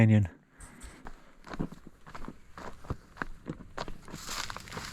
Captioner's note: rocks crumbling